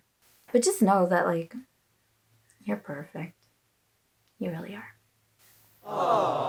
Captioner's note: aw sounds